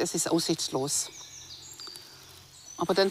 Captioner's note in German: Vogelzwitschern